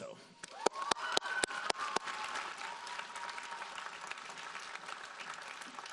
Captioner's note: audience cheering and applauding